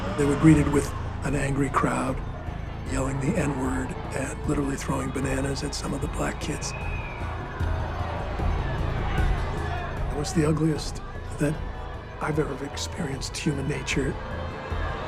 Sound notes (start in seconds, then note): 7.9 crowd yelling